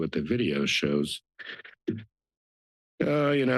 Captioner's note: pause